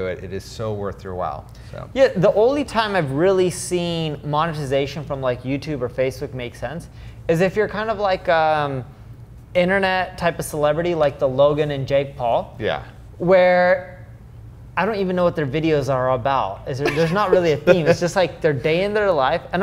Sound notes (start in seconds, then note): 16.8 laughs